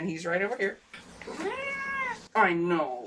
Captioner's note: meows